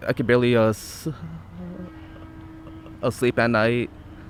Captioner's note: stuttering